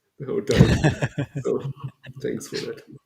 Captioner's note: laughs